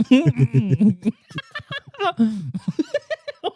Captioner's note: laughing